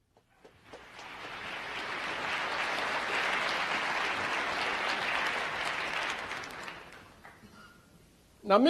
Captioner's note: applause